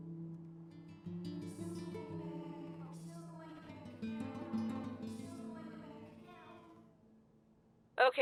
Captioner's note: echoing